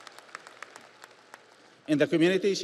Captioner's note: audience applauds